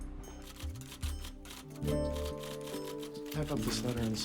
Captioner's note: typing